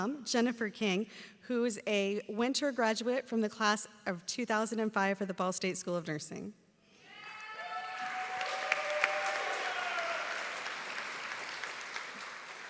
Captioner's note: cheering